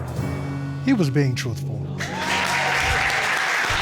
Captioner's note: audience applauds, cheers